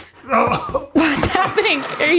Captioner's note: groans